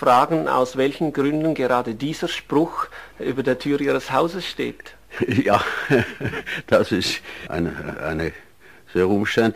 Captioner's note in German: lacht